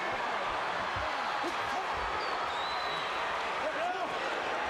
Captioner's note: crowd chattering